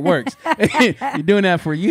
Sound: laughing

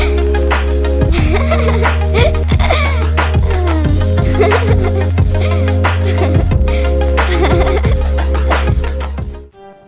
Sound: children's laughter

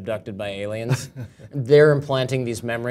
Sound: laugh

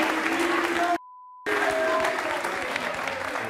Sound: beep

